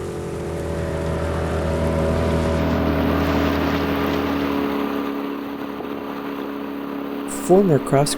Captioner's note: sound of boat motoring out on the lake